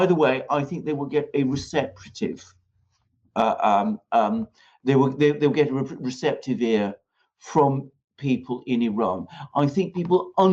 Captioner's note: …um…um…